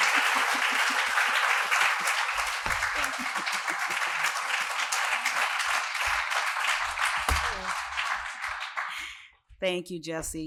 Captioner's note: applause